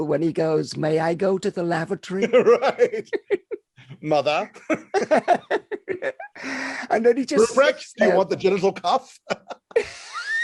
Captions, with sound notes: when he goes, "May I go to the lavatory?" - Right! Mother. (both laughing) - I know and he just--- - Ruprecht do you want the genital cuff?